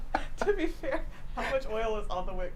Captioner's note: laughs